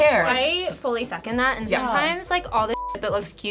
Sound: beep

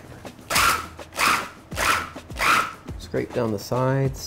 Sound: whirring

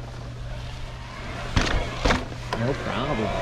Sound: whirring

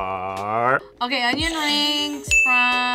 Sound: buzzer rings

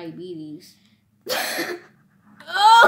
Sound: laughs

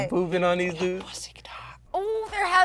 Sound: whispering

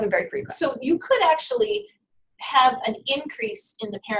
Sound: voiceover

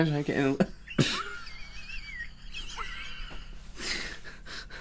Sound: wheezing Laughter

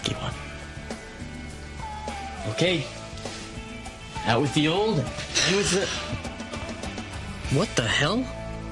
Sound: grunts

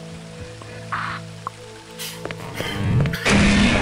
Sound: gunshots

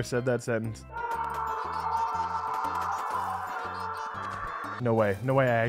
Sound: weeping and moaning and gnashing of teeth

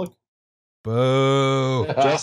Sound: laughter

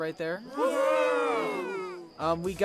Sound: ponies cheer

